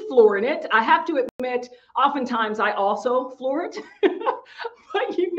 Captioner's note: laughing